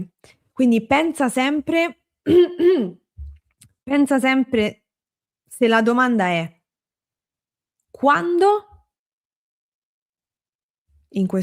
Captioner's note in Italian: schiarire la voce